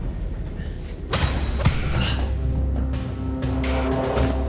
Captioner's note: punch striking